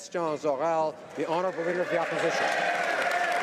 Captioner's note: applause